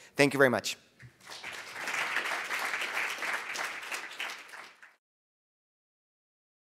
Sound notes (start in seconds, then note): 1.1 audience applauding